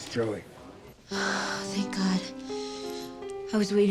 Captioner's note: sighs